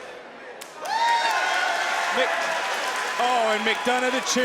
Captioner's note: crowd cheers